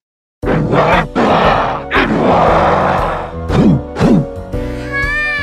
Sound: grunt gibberish

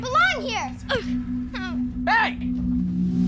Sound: boy grunts

